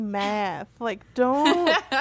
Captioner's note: laughter